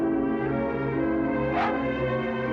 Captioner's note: barks